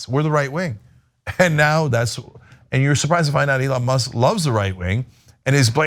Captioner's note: laugh